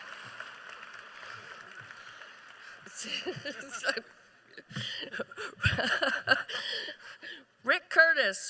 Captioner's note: applause